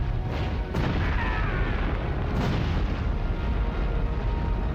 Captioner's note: screams